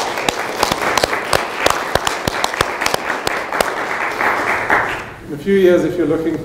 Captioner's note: applause